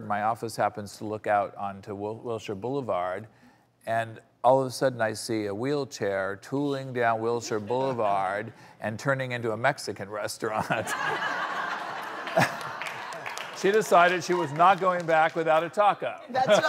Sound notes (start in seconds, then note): 10.6 audience laughs